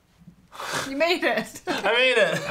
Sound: chuckles

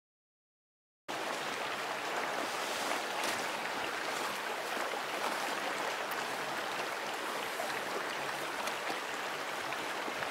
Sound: sound of mountain stream

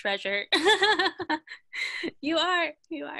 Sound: laughter

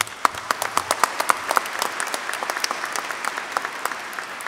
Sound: applause

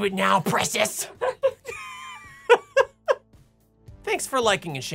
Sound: laughing

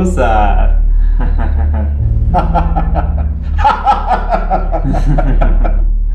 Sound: both laugh

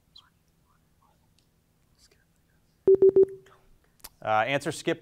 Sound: students whispering

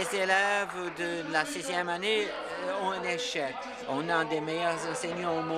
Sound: some Applause

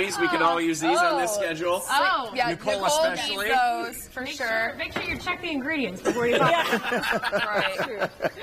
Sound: laughter

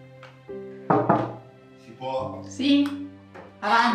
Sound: knock on the door

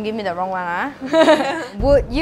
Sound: laughs

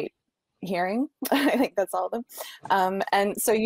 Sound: chuckling

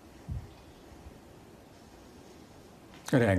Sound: silence

